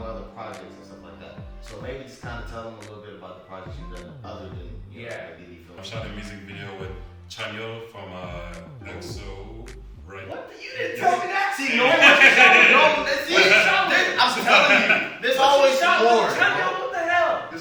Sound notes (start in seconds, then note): 11.6 laughs